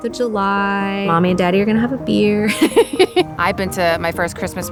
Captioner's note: laughing